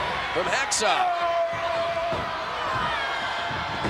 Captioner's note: fist pounding; Hacksaw yelling